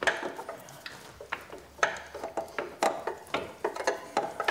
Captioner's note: metal clatter